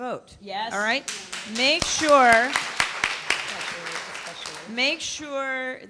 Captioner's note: applause